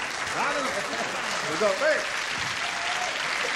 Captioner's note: applause